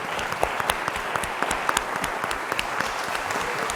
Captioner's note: clapping